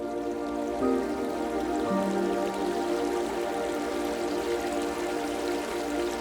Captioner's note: gentle music; water gurgling